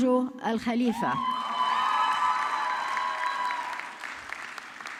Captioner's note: audience clapping